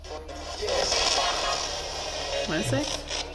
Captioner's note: spirit box voice